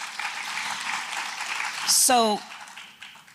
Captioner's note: applause